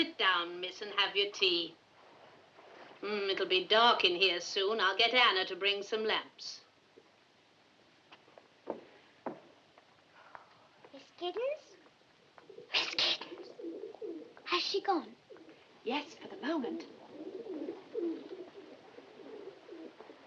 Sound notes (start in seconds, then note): 12.6 whispers